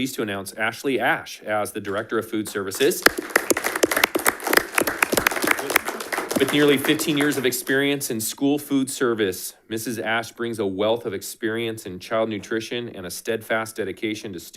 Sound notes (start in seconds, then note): 2.6 audience applauding